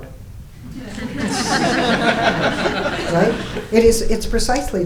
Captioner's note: audience laughing